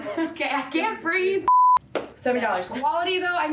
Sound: screen beep

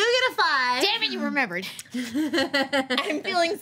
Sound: laughs

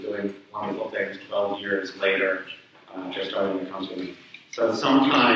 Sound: speaks away from mic

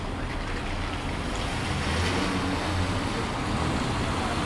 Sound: street noises

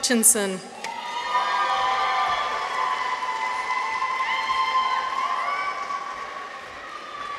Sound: people cheer; audience applauds

